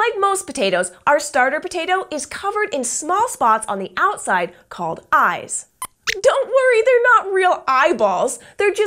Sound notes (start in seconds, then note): 5.8 squeaks squeaks